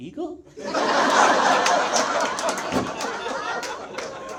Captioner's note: audience laughs